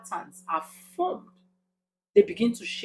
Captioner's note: paause